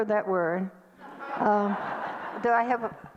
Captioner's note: audience laughter